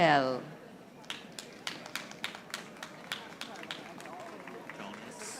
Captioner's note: audience applauding